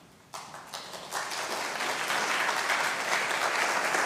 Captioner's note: audience clapping